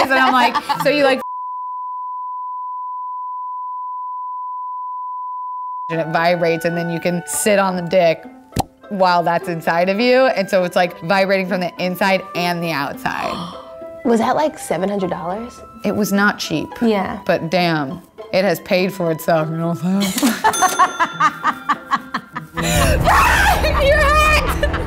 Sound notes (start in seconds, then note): 13.2 gasps; 20.0 laughing